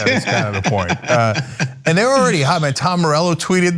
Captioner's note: laugh